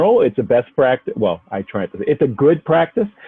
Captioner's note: murmurs